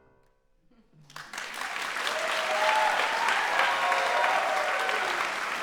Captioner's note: audience applauding